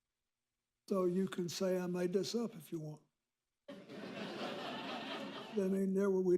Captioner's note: laughter